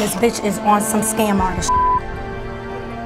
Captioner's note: beep